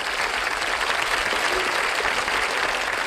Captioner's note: crowd applauding